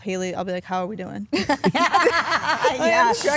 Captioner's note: all laugh